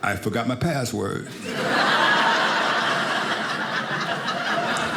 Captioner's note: audience laughing